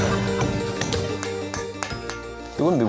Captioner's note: pounding